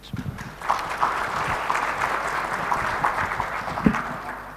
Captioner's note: audience claps